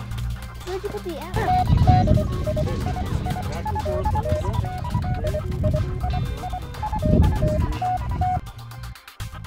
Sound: radio noises

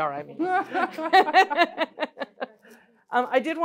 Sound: laughing

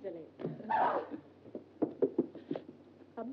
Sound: Glenda shrieks

